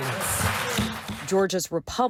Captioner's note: applause